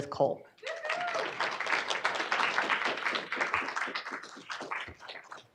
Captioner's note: audience clapping and cheering